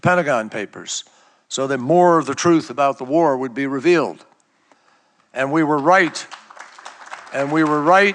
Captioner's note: applause